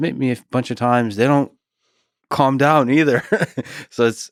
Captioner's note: Lex laughs